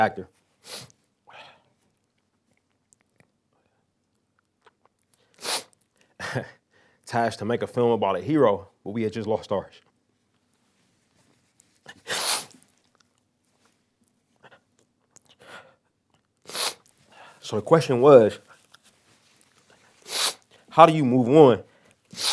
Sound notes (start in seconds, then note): 11.9 sniffles; 13.4 pause; 16.4 sniffles